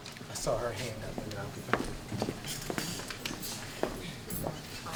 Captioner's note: faintly speaking